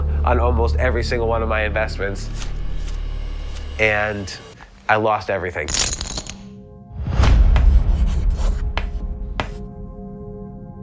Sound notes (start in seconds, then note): 7.5 chalk scraps